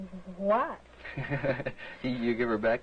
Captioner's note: laughter